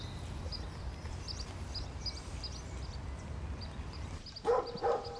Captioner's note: birds chirping; dog barking